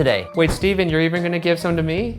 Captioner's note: air whooshing